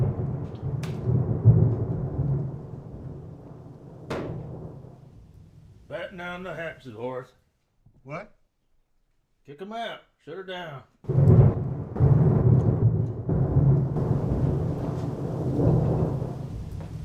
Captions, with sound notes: Batten down the hatches, Horace. - What? - Kick 'em out. Shut her down. (thunder clapping)